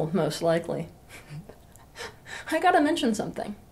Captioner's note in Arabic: ضحك